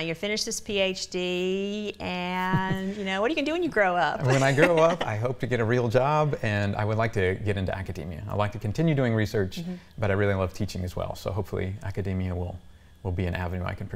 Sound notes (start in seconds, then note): 4.2 chuckles